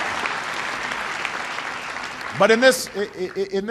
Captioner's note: applause